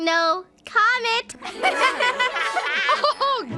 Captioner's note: laughter